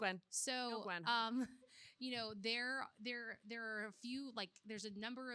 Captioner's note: laughs